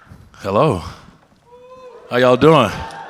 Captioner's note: audience cheers